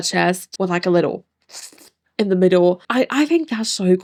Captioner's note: slurps